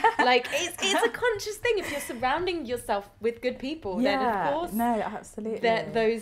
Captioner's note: laughter